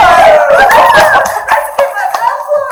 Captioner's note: audience cheering